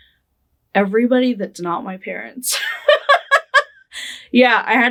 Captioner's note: laughing